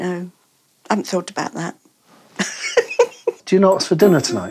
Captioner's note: laughing